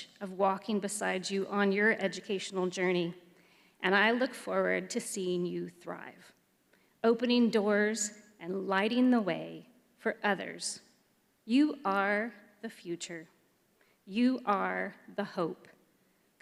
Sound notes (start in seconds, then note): none